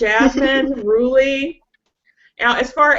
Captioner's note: chuckles